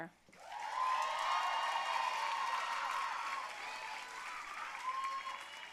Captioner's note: audience cheering and applauding